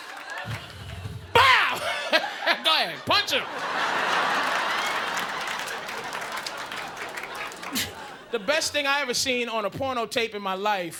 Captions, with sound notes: Bow! [laughs] "Go ahead, punch 'em." [audience laughing] The best thing I ever seen on a porno tape in my life.